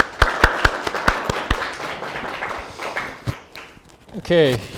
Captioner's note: audience clapping